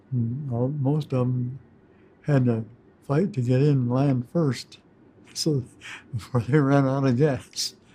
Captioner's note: chuckles